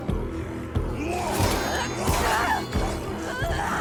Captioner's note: menacing music; swords clack; enemy shouts; Senua shouts; enemy groans; Senua shouts